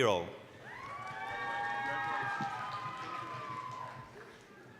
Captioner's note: applause, cheering